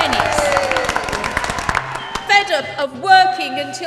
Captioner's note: the audience cheers